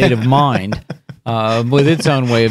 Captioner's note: laughing